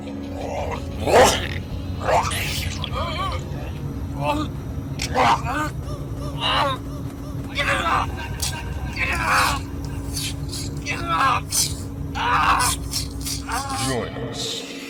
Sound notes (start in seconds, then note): 3.0 victim reacts in pain off screen